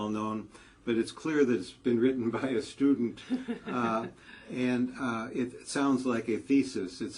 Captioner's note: laugh